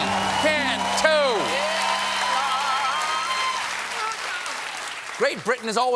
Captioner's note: applause